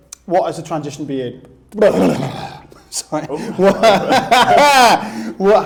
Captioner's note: possessed noises